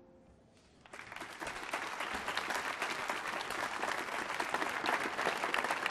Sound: applause

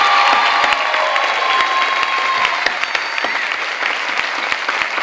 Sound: clapping

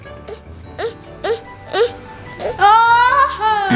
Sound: baby grunts

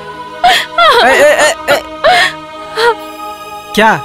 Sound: crying

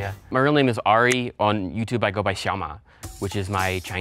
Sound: speaks foreign language

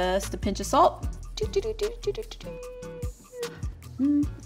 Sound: hums

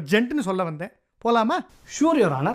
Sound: sarcastic tone

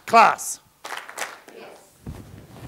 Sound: clap, clap

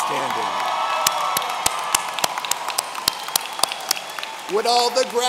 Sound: audience cheering

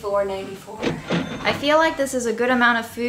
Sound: cash register chiming

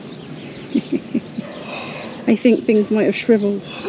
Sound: laughter

